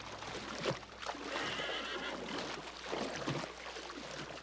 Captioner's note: horse whinnies